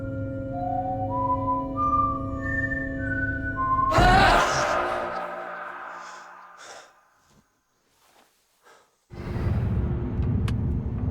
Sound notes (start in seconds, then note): 3.9 ghostly shouting